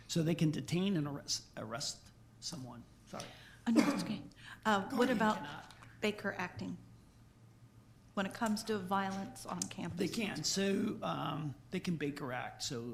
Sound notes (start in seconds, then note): 4.8 coughs